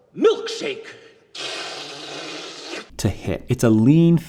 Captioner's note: slurps